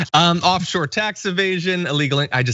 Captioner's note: laugh